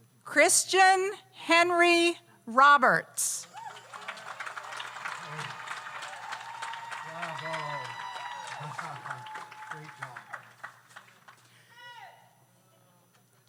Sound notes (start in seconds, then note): 3.4 audience cheers; 3.4 audience applauds